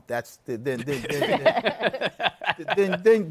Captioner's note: laughter